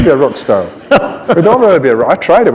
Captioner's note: laughter